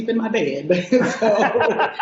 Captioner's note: laughing